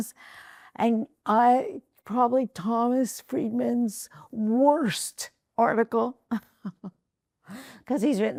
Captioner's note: rires